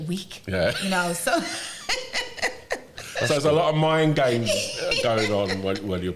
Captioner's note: laughter